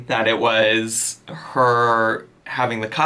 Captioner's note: none